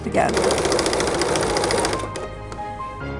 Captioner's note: sewing machine rattles; melodic music